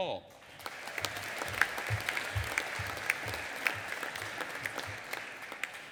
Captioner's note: audience applauding